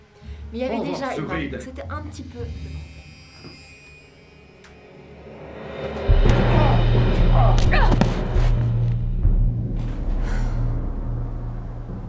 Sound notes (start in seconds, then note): 5.7 Ellie grunts; 6.3 guard groans; 8.6 ominous music